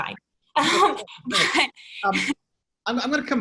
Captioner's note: chuckles